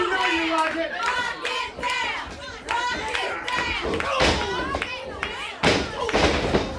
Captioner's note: audience chanting and clapping; fist thuds; body thuds